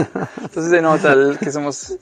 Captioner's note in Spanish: Risas